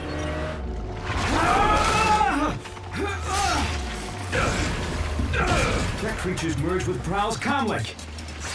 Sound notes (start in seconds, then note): 1.3 exclaiming